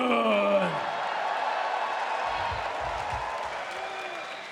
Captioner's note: audience cheers